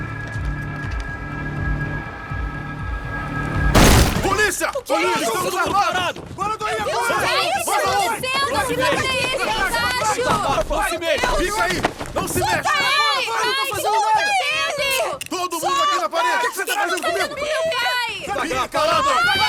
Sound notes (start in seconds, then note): 5.7 shouting; 11.2 all shouting; 16.3 shouting continues